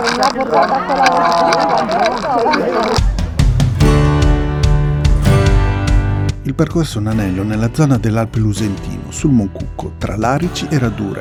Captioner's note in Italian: Tutti ridono